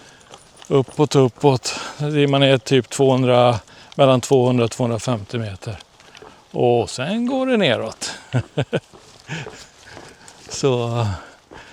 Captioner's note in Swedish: skratt